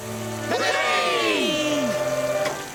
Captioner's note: all Cheer